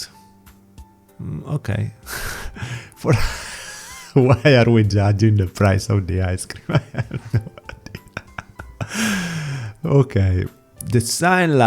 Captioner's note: laugh